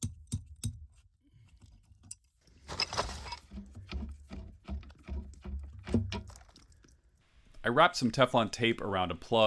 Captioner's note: hammering monkey wrench around pipe for tighter fit